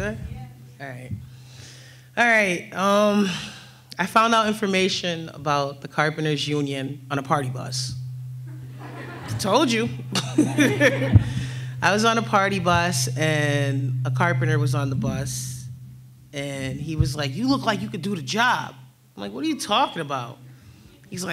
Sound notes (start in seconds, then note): 10.1 laughs